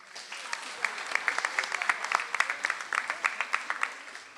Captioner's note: audience applauds